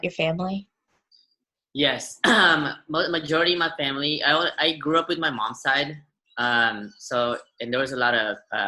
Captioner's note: clears throat